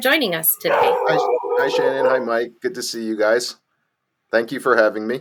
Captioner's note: crazy loud dog barking; more dog barking